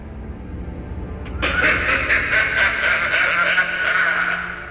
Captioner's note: laughs